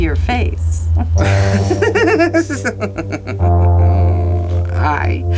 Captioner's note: people laughing